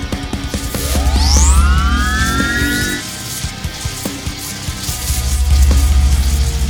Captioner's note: scorpion beast shrieks; electricity crackling; stinger whirring